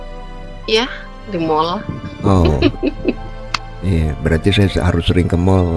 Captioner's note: tertawa